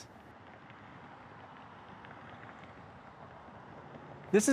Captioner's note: traffic sounds